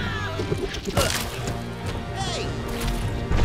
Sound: grunting

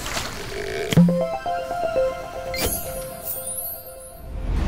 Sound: playful chime

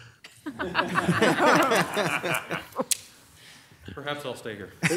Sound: audience laughing

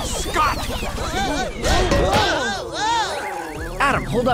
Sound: MOE exclaiming

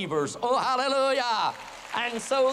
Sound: applause

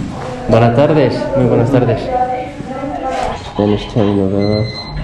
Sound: speaking Spanish

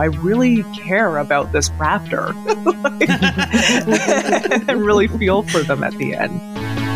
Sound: laughs

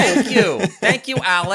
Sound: laughter

